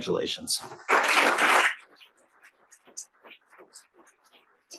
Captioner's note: audience applauds